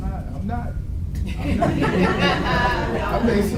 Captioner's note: audience laughs